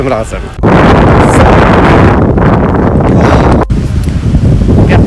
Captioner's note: wind!